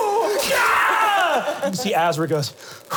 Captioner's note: screaming; heavy breathing